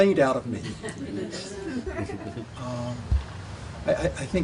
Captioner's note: people laughing